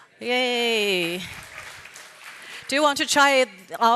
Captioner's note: applause